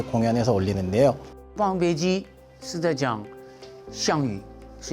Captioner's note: speaking in Chinese